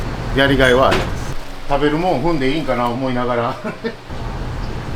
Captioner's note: laugh